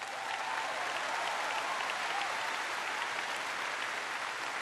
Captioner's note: applause